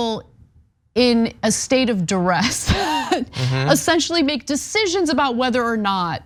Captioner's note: laugh